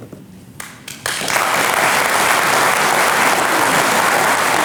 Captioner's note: audience clapping